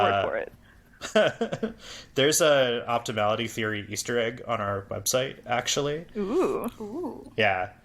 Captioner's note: laughs